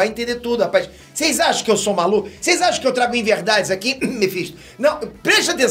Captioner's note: cough cough